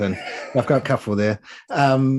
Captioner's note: chuckling